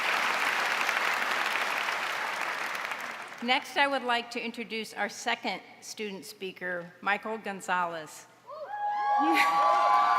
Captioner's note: applause